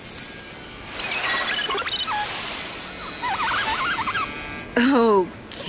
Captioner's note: drone beeps